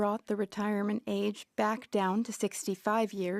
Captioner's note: speaking French